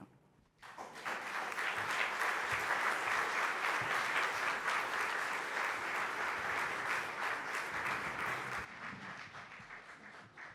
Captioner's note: applause